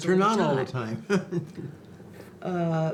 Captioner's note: laughs